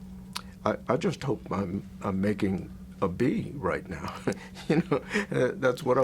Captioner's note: laughs